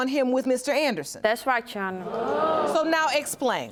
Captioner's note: audience gasping